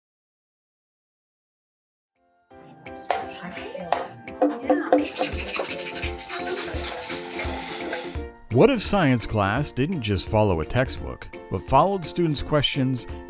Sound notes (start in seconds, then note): 3.9 drum Sound; 3.9 rubber Band Slap; 4.4 shaking Maraca